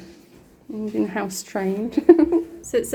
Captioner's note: laughing